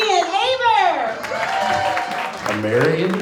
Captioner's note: audience cheers